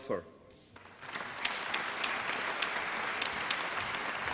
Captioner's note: applause